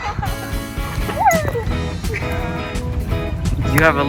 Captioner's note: grunts as if he's in pain